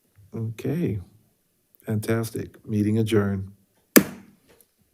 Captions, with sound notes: Okay, fantastic. Meeting adjourned. (gavel thuds)